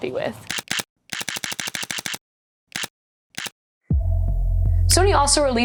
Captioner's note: shutter clicking; mellow music